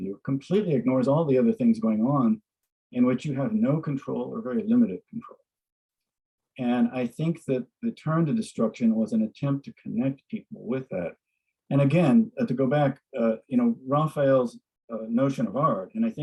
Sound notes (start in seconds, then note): none